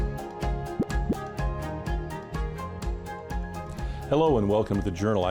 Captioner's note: graphic bubble Pops